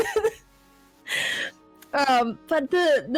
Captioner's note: hehehe; catches her breath